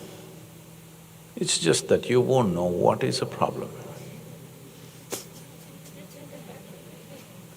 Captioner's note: laughter